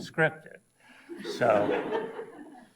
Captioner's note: audience laughs